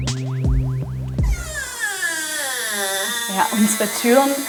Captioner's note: door creaking